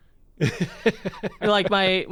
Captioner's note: laughs